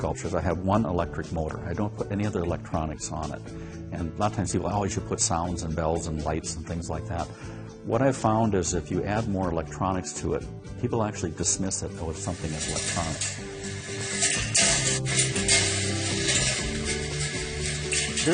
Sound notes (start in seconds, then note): 16.3 metal clangs